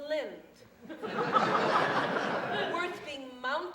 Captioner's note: audience laughs